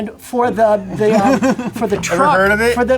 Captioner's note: producer laughs